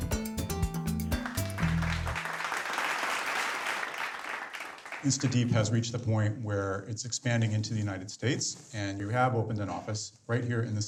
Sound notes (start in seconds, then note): 1.0 people applauding